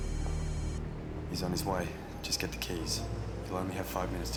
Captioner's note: cellphone ringing; dial pad beeping